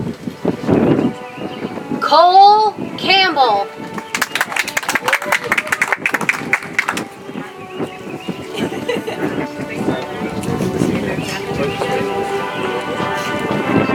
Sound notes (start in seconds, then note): 3.8 audience applauds; 8.1 soft music